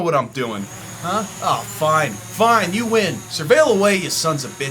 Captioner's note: drone flying